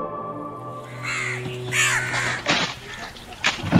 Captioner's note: crows cawing